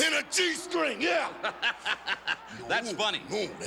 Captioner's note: Mean Gene laughing